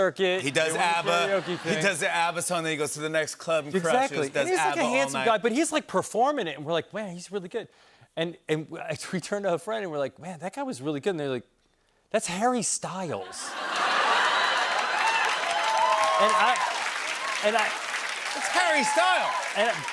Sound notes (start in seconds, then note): 13.5 cheers and applause